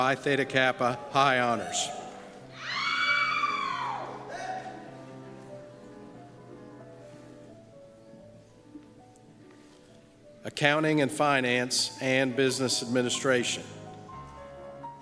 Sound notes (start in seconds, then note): 2.5 screams